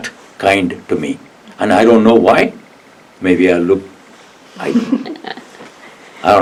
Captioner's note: laugh